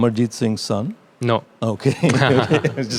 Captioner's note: laughing